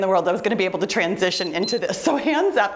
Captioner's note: timer beeps